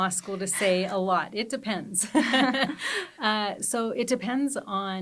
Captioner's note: both chuckle